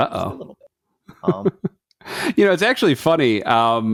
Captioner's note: laugh